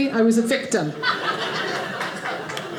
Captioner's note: audience laughing